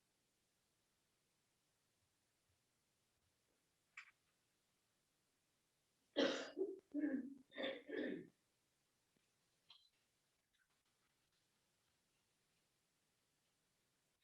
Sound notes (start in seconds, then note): 6.1 coughs